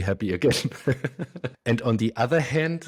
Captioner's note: laughs